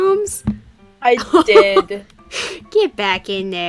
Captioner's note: laughs